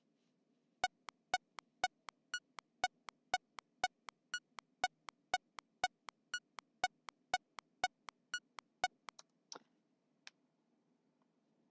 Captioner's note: metronome sounds